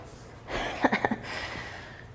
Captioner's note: laughs